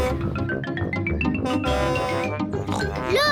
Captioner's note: horn blares; snorts